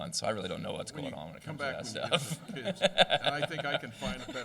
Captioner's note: laugher